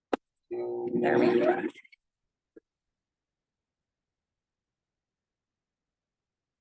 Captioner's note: mixer whirring